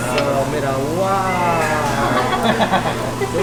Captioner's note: laughter